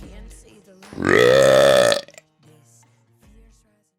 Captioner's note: burps loudly